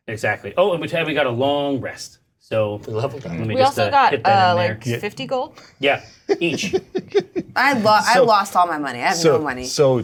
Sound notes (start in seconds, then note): 6.2 laughing